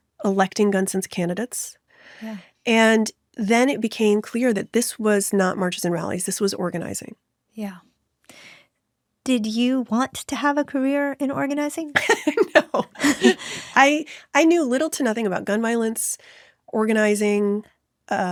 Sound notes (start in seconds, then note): 11.9 laughs